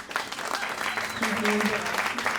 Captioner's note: clapping